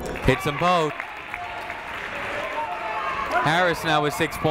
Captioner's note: people shouting in the crowd; crowd clapping